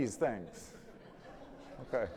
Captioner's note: audience laughing